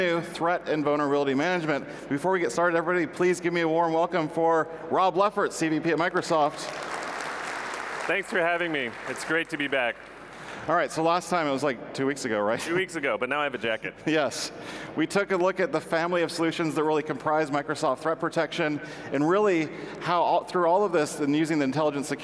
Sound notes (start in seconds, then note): 6.6 audience applause